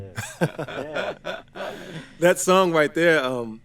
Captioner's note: all chuckle